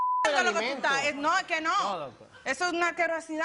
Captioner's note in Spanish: Bip